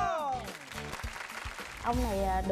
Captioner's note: applause